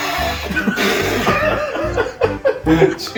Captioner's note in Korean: 카아아악